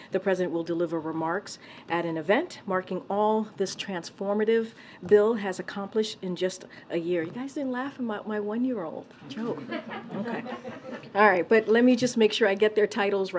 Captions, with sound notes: the President will deliver remarks at an event marking all this transformative bill has accomplished in just a year. You guys didn't laugh at my one-year-old joke. (Laughter.) All right, but let me just make sure I get their titles,